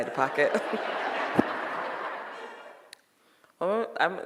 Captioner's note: audience laughing